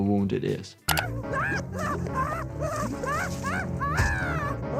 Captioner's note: Nutty screams